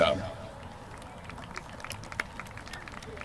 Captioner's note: applause